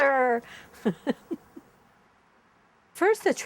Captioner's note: chuckles